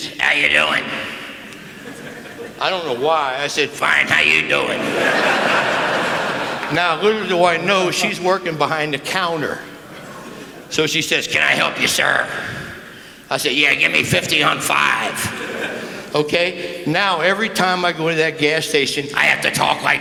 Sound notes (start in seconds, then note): 4.7 laughter